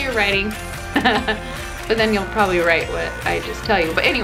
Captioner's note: laughing